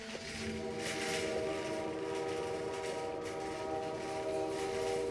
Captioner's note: train whistle blows